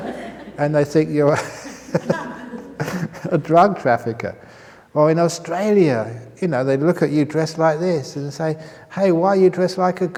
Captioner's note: chuckles